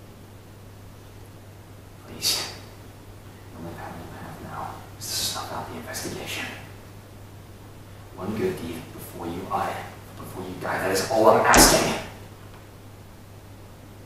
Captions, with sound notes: Please. The only power you have now, is to snuff out the investigation. One good deed before you die, before you die, that is all I'm asking. (fist slams table)